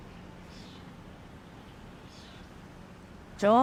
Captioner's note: birds chirping